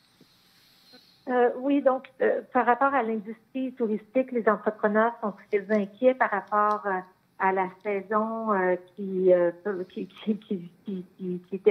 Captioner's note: speaking French